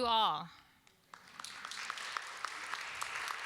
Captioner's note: applause